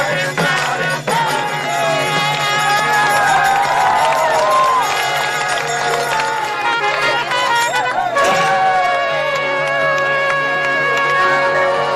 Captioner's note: Applausi